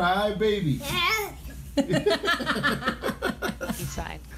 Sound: laughter

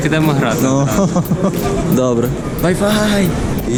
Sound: laughs

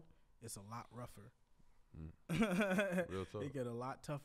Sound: laughs

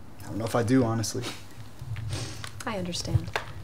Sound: huff; girl inhales deeply

